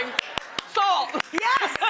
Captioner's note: clapping